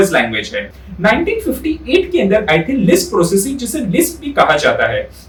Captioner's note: lisp